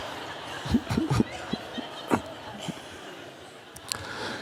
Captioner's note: audience laughs; Eckhart laughs